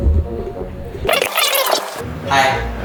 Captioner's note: tape fast forwarding